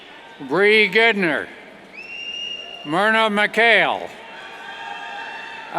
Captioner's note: whistles and cheers